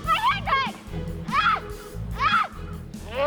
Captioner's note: yells